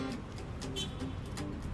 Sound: horn honks

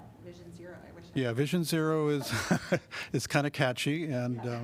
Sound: laughter

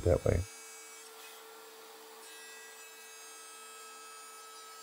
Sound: saw screeching

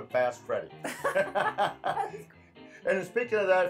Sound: both laugh

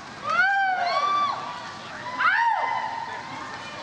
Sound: audience cheers

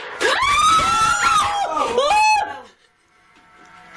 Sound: screaming; loud banging

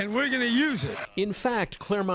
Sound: applause

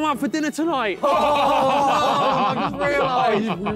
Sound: all laughing

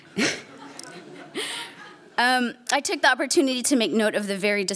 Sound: laughs; laughter

